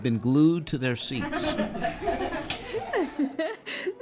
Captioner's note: excessive laughter